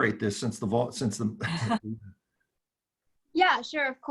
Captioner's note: laughing